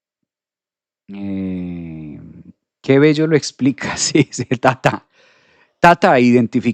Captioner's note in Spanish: risas